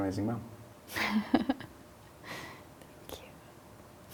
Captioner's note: laughs